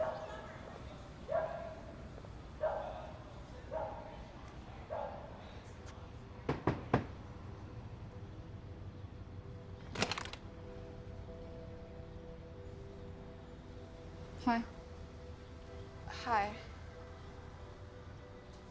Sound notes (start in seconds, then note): 6.2 gentle music; 6.5 light knocking